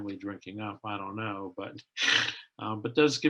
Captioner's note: chuckles